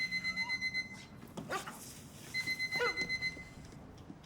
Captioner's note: dog barks, whines